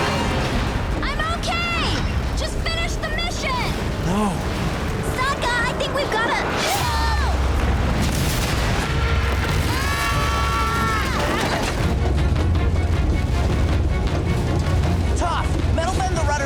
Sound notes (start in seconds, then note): 9.6 screaming